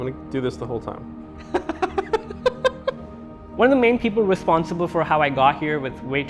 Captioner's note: laughs